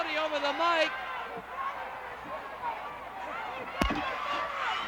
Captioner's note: crowd cheering